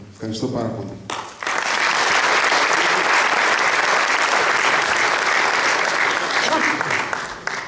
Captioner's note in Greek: Χειροκροτήματα από το ακροατήριο